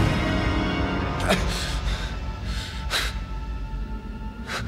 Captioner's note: Martin gasping awake; haunting orchestral music